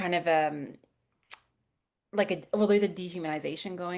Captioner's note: clicks tongue